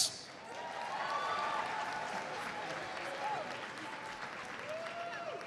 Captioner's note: audience cheers and applauds